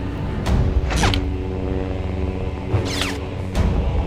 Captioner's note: lightsabers "snip," "hum," and "chirp" against the other